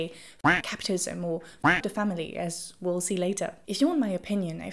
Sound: duck quacking

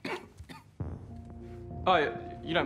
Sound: coughing; music stops

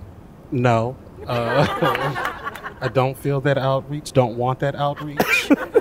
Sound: laughter

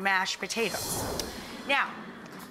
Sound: air whooshing

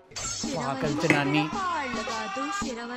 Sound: phone ringing

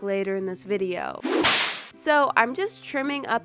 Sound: smack

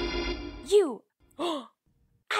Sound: le gasp

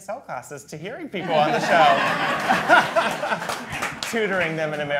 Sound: all laughing

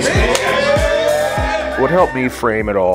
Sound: cheering and applauding

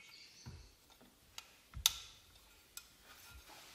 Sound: click

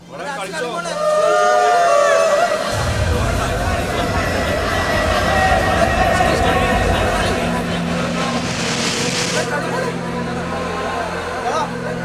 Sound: cheering sounds

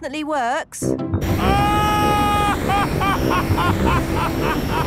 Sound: excited screaming, laughing

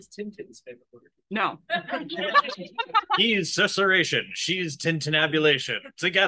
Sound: in a superhero voiceover voice; laughs

